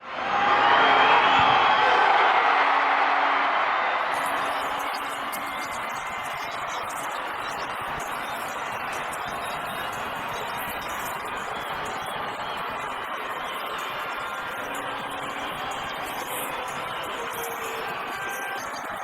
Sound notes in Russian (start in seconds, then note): 1.3 ликование